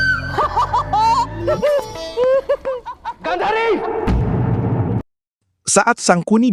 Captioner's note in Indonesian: tertawa